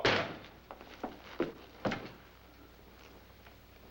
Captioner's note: door thudding